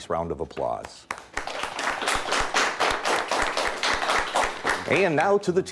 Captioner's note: audience applauds